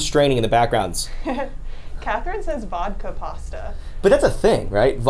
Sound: laughs

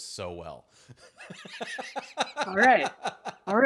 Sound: laughing

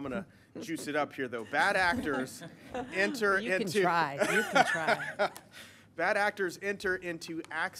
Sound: laughter

